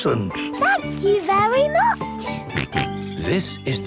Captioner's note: George snorts